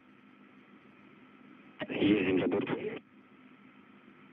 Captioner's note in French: Phrase en russe